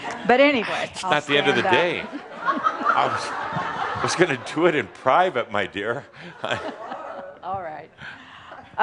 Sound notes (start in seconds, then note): 1.9 some chuckles